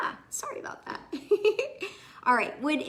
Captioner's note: chuckles